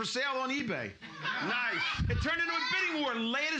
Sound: loudly laughing

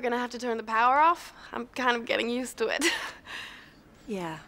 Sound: laughs

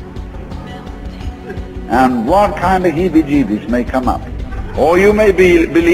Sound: audience's laughs

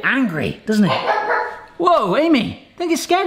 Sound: dog barking

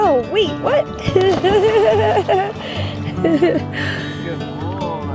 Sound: laughter

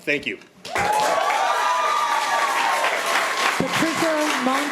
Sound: audience applauding

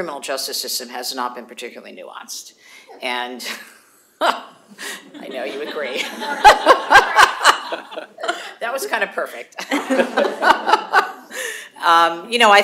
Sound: audienc laughs

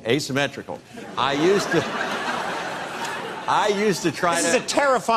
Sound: crowd laughs

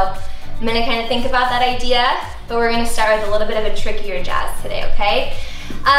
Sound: none

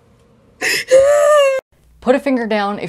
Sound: sobbing

